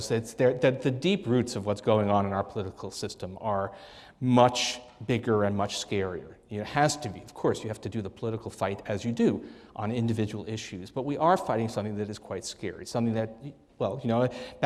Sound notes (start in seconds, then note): none